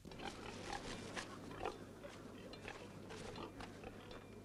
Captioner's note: pigs grunting